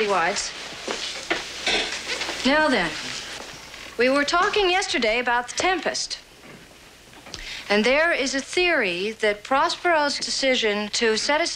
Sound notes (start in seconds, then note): none